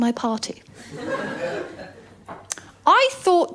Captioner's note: laughter